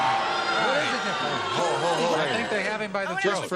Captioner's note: booing